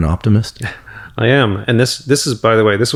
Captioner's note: chuckles